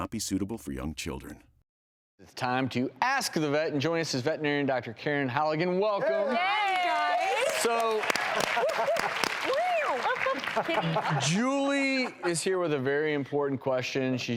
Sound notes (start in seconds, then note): 6.6 applauding; 8.4 cheering